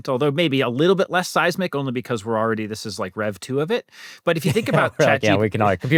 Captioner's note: laughter